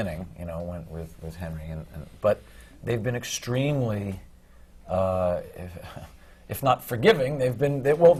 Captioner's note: laughs